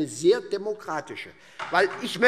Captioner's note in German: Beifall